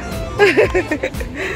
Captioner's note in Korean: 웃음